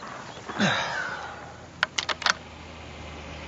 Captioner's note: grunts; clicking